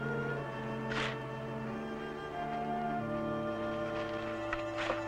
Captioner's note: soil crunching